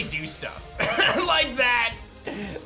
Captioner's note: chuckles